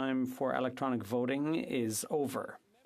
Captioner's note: speaking FRENCH